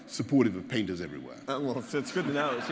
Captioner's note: laughter